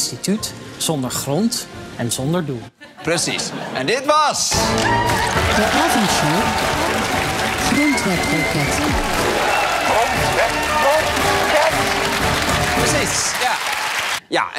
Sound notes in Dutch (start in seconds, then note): 7.5 applaus en gejuich